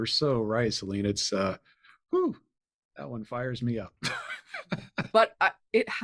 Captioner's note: chuckles